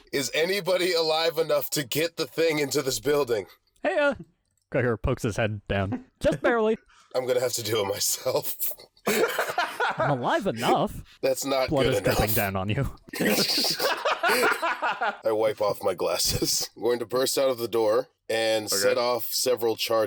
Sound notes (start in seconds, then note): 9.0 laugh; 13.1 laughter